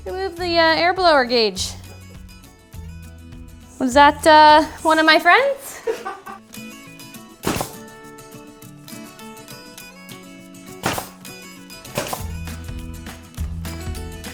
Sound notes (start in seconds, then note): 5.8 chuckles; 9.1 nail gun popping